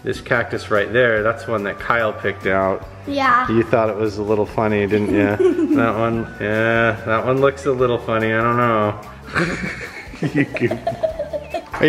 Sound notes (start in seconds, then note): 4.9 giggles; 9.2 laughing